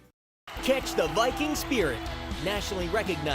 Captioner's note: voiceover